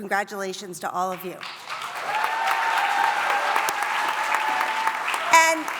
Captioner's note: cheering and applause